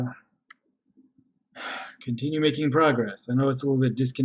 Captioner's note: sighs